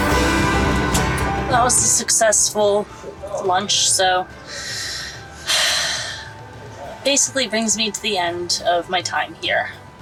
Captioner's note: sighs